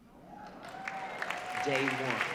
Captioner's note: audience cheering